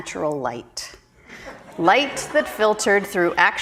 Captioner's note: audience laughing